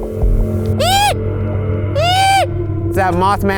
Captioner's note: squeaking shrilly